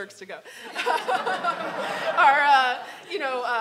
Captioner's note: audience laughing